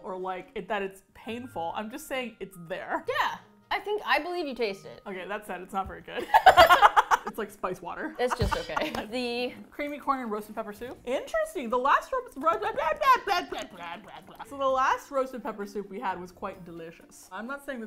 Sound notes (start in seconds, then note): 6.2 both laugh